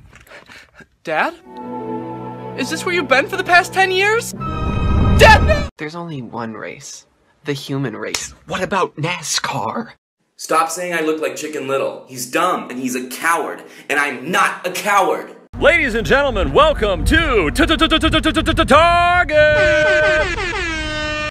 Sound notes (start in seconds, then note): 7.7 smack; 19.3 air horn sounds